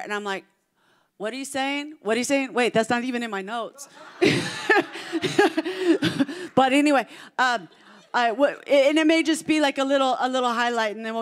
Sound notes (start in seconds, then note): 3.8 congregation laughing